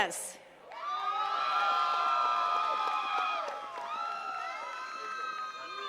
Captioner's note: attendees cheering and clapping